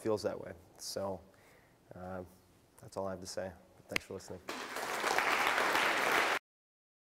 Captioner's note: clapping